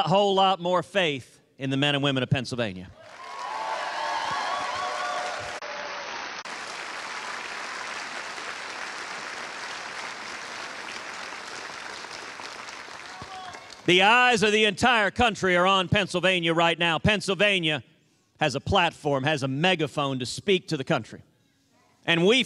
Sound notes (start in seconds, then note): 8.2 cheers and applause